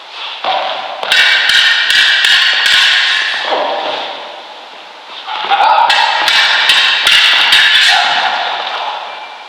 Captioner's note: Swords clashing and exclamations of effort from the Prince; sword swishing and ringing